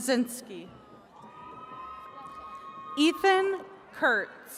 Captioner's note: attendees cheering